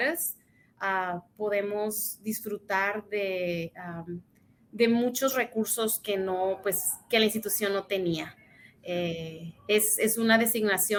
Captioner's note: speaks in Spanish